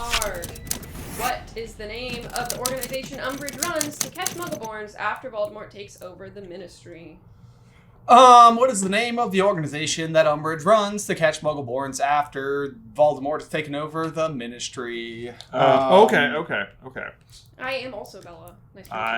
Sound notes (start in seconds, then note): 7.5 sing-song